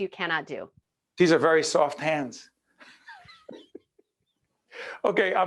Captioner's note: laughing